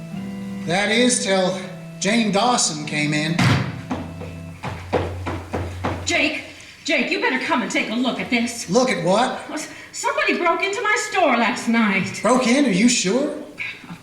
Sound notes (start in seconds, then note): 3.6 quick footsteps